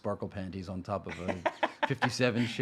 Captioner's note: laughing